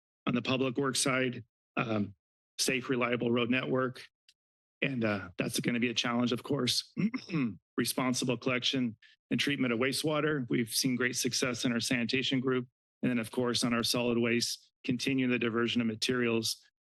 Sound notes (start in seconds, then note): 6.8 clears throat